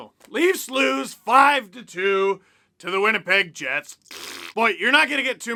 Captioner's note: fart noise